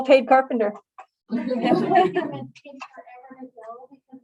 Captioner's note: laughter